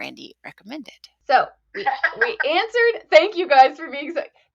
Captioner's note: laughs